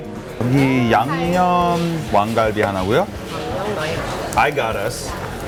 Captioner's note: orders in foreign language